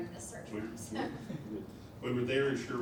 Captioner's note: laughs